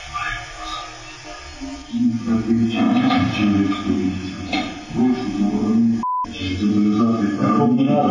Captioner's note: whispering